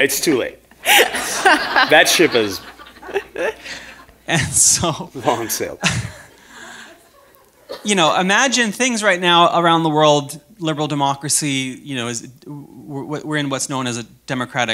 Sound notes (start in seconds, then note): 5.8 chuckle